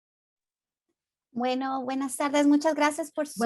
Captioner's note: speaking in Spanish